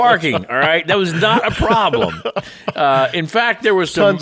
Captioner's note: cohost laughing